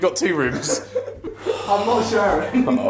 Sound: laughing

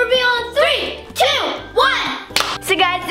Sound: claps

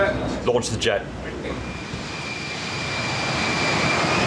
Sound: plane whizzing

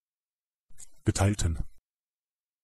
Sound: fast Pronunciation

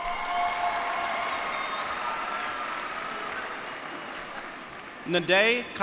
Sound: cheering

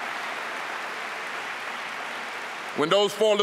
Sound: applause

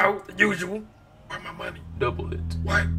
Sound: whispering

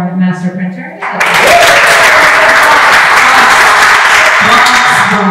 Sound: applause

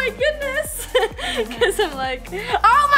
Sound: laughs

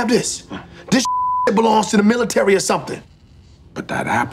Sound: beep

